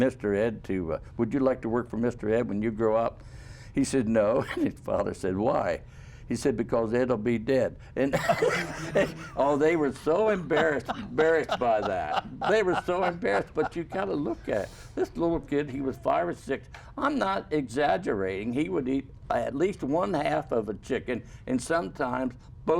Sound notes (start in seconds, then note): 13.4 laughter